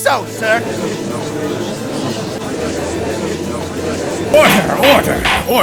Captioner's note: gallery chattering